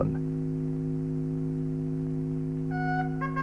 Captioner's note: sound of electrical current